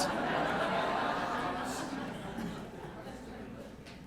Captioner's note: laughter